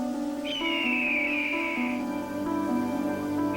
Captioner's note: squawking